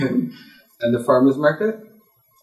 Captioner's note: chuckle